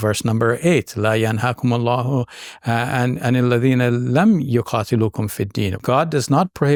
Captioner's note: speaking in Arabic